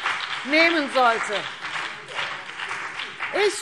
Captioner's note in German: Beifall BÜNDNIS 90/DIE GRÜNEN und vereinzelt CDU